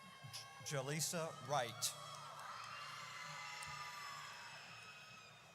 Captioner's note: audience cheers